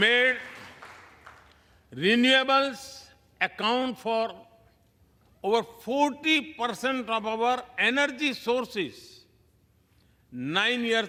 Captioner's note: applause